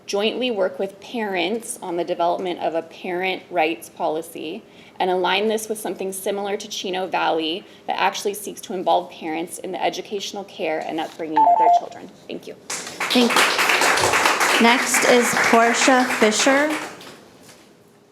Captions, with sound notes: jointly work with parents on the development of a parent rights policy and align this with something similar to Chino Valley that actually seeks to involve parents in the educational care and upbringing their children. Thank you. - Thank you. (people clapping) - Next is Portia Fisher.